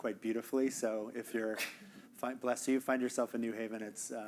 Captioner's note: audience member sneezing